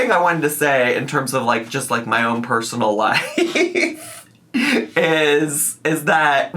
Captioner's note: laughs